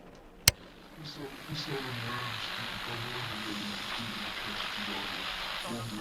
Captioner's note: speaking in a foreign language